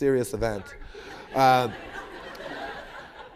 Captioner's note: laughter